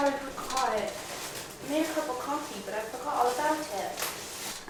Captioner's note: British accent